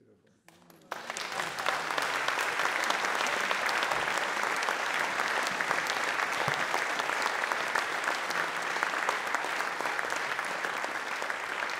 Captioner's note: audience Applause